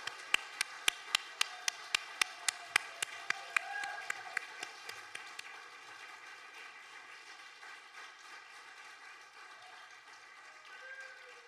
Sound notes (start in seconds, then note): 0.1 audience applauding; 3.9 audience whooping